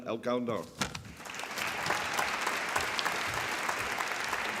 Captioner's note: applause